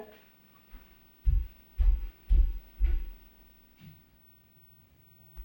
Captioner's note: footsteps thumping